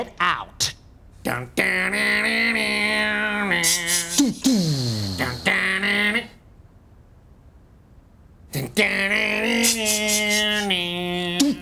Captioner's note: men hum theme